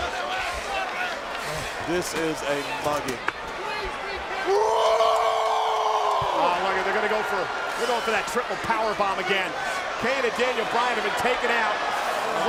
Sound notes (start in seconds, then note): 4.6 Reigns roaring